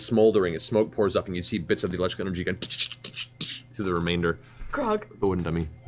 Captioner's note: crackling